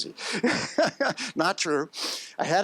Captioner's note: laughs